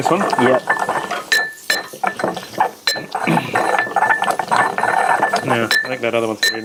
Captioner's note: pounding drowns out other sounds